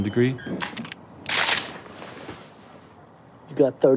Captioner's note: gun clicks